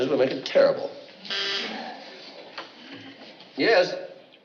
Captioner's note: intercom buzzes